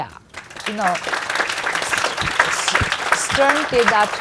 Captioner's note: audience applauds